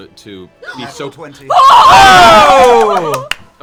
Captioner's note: cheering